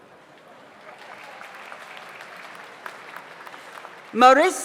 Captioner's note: audience applauds